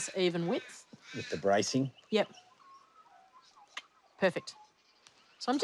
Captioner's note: clicks tongue